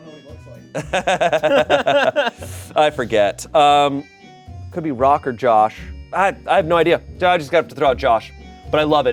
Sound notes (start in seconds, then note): 0.8 everyone laughs